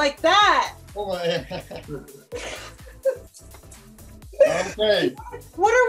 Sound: laugh together

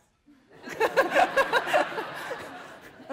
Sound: laughter

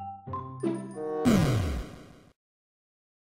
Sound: inminent fall sound

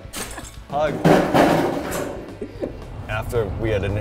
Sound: iron sheet rustling

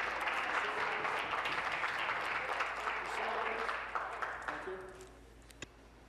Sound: applause

